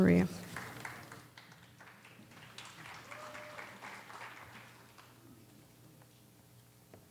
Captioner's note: scattered applause